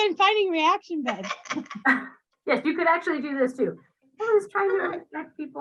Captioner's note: laughs